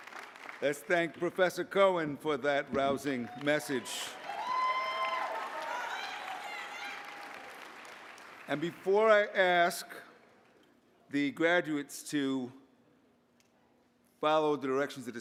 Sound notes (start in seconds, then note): 2.6 applause